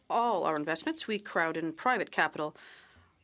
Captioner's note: speaking in French